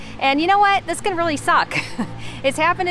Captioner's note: chuckling